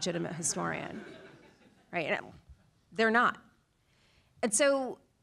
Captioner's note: laugh